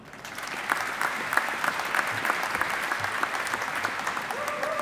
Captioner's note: audience applauding